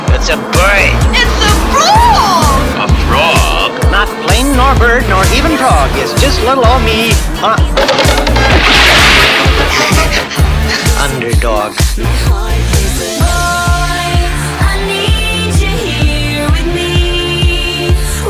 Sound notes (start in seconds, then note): 7.8 crash! & splash!; 9.4 laughs!